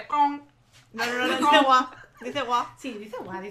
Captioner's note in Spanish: risas